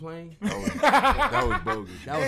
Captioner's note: laughs